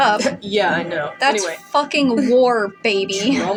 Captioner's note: chuckle